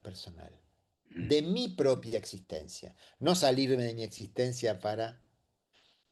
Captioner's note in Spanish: carraspeo